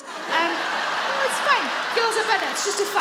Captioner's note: audience laugh